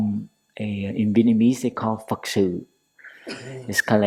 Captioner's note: Vietnamese